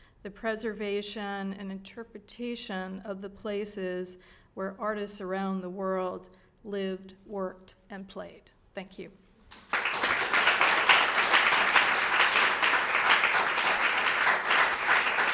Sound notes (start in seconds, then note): 9.5 audience claps